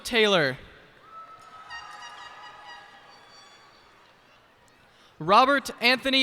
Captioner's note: cheers and applause